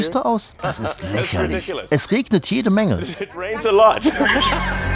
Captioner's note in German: lacht